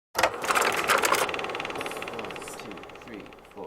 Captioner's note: film reel spinning